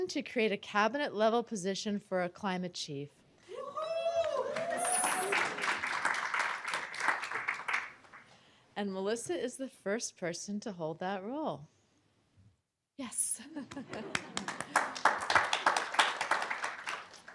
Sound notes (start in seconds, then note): 4.2 applause; 13.6 applause